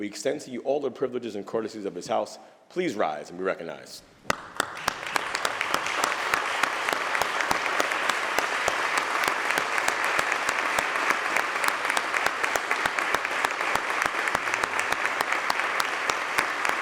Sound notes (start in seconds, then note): 1.7 applause